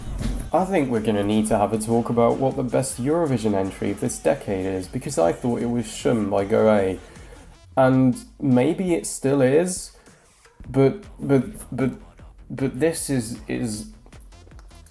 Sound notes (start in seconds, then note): 11.5 stammers